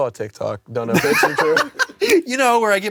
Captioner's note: laughs